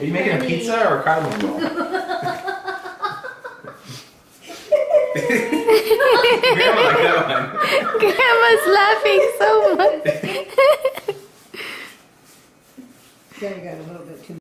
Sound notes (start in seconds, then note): 1.7 laughs; 8.1 voiceover